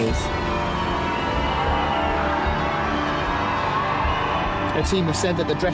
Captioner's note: crowd cheering; bells chiming